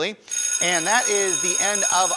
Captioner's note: bell ringing